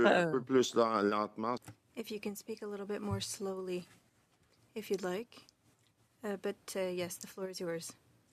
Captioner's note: speaking French